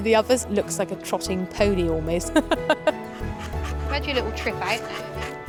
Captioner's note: laughs